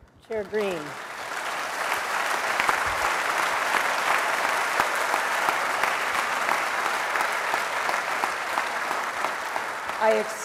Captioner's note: applause